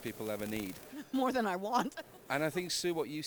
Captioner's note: laughs